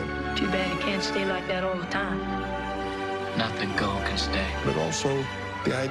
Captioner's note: none